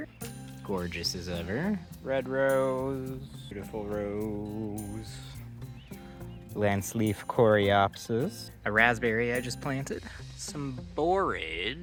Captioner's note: birds chirping